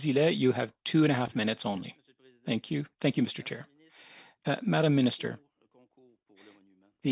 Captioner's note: speaking French